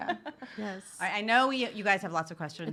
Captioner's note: laughs